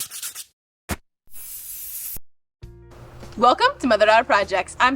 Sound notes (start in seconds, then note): 1.4 scratching and hissing